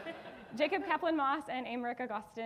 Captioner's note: audience laughing